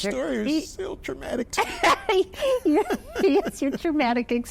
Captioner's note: laughs